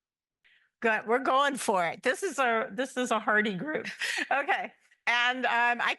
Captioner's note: laugh